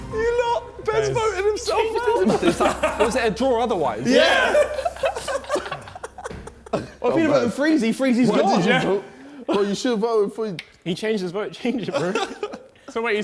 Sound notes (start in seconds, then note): 1.8 laughs; 5.0 men laughing